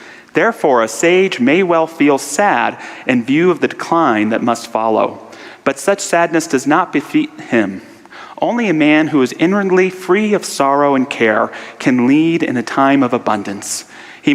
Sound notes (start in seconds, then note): none